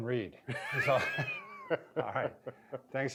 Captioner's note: both laugh